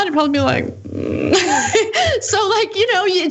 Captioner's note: laugh